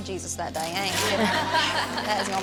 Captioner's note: everyone laughing